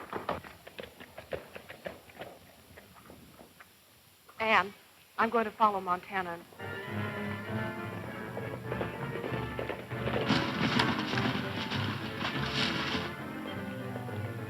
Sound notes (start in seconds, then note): 0.0 galloping hooves; 8.1 energetic orchestral music; 8.1 galloping hooves